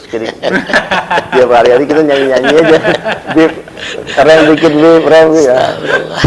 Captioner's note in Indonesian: tertawa